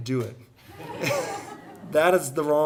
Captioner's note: audience laughing